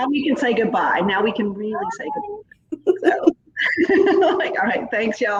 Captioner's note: laughs